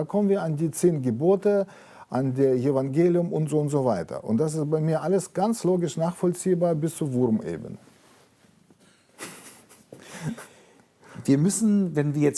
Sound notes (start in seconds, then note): 9.2 laughs